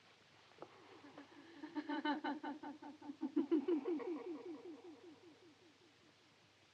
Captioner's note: woman laughing